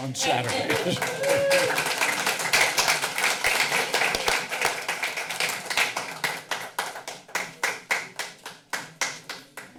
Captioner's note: laughing; applause